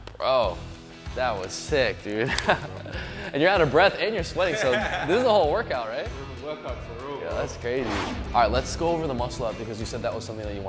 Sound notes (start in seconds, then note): 2.6 laughs; 7.4 screen whooshes